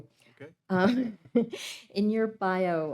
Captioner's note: laughing